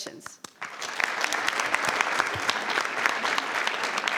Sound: crowd clapping

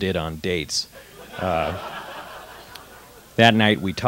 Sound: laughter

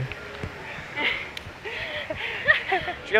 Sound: nervous laughter

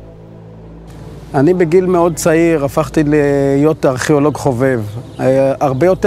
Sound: speaking in foreign language

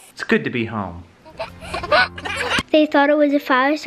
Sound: giggling

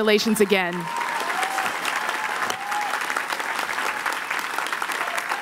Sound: applause

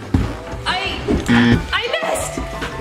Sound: buzzer sound

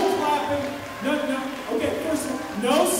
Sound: audience clapping

